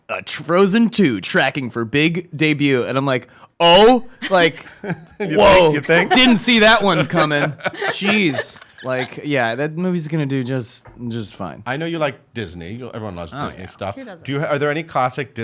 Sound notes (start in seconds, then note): 4.2 laughs